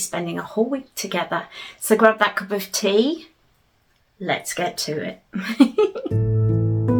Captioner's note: giggles; gentle folk music plays